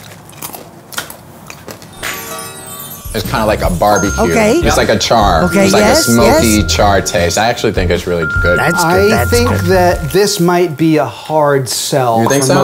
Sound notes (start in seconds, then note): 0.0 crunching